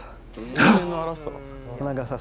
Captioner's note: Katya gasps